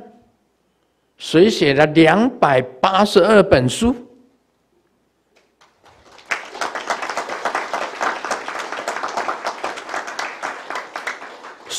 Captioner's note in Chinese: 眾鼓掌